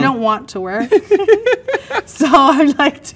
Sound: both laugh

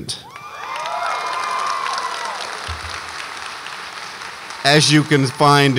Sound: audience applauds and cheers

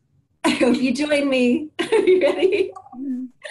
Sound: laughs

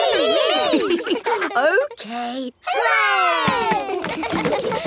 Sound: chuckles; kids laughing

